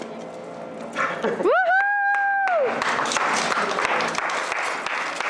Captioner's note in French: rires, applaudissements et ovations